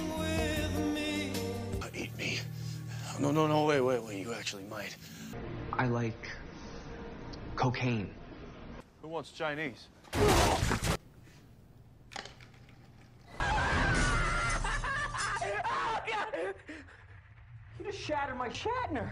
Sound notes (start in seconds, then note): 10.1 splat and grunt; 13.2 screaming and glass shattering; 16.2 sobbing